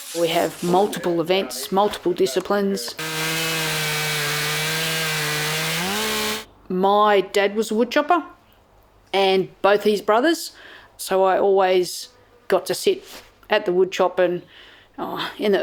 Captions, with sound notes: We have multiple events multiple disciplines. [Sawing sound)] My dad was a wood c hopper and both his brothers so I always got to sit at the wood chop and